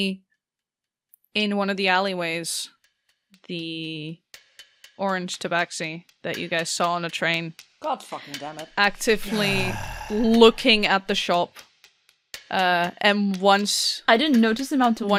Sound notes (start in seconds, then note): 8.8 sighs